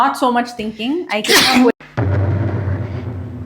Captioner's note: sneezes off cam